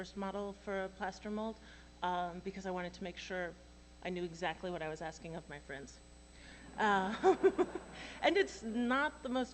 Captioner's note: laughter